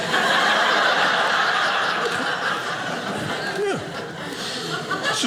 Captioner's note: audience laughing